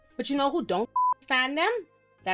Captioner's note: beep